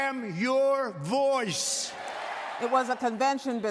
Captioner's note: cheers